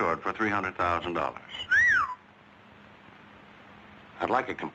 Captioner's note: whistling